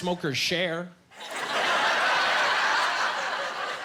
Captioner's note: laughing